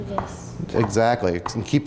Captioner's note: hand smacking counter